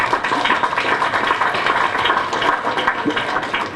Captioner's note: applause